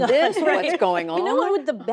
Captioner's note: laughter